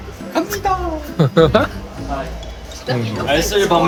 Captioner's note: laughing